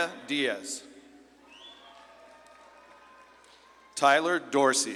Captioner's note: audience claps and cheers